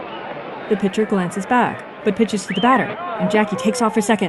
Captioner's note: whistling